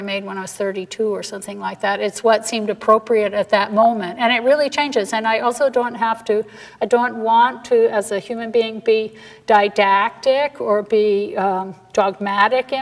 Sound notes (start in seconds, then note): none